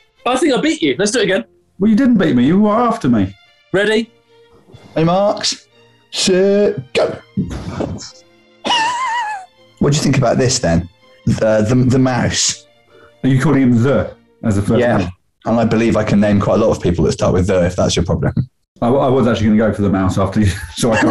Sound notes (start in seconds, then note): 8.7 sniggering